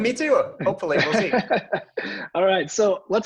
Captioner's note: all laughing